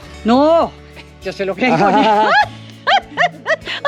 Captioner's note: laugh; laughs